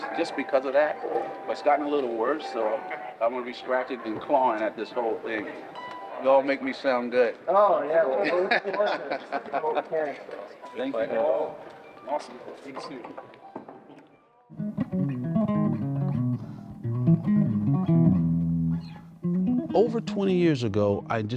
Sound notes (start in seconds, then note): 8.2 laughs; 14.8 bright music